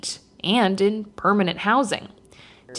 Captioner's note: chatting distantly